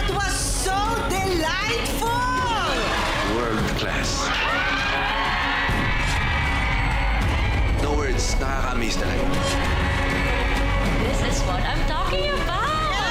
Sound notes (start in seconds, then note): 4.1 cheering